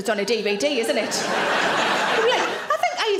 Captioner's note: audience laughs